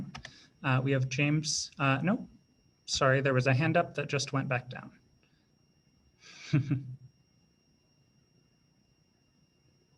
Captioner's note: laughs